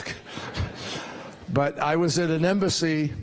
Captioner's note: laughter